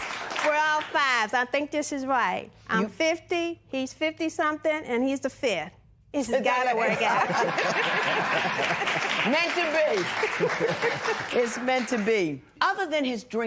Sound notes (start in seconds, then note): 6.8 laughter